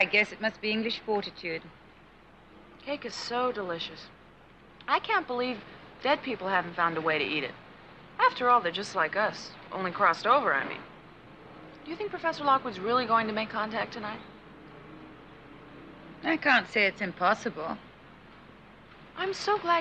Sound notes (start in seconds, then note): none